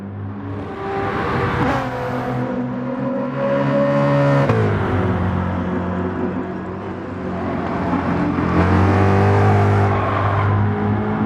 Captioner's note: engines revving, cars noises